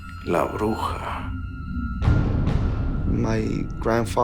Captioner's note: speaking Spanish